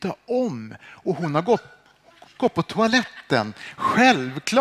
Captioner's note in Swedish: skratt